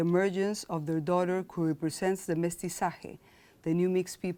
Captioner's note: speaking in foreign language